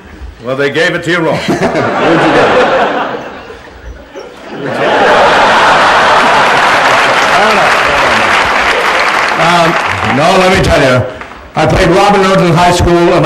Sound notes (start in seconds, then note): 1.9 laughter and applause